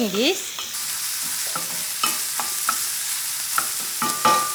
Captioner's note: food sizzling